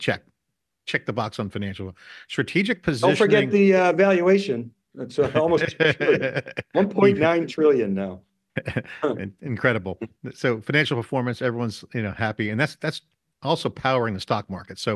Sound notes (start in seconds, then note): 8.0 laughing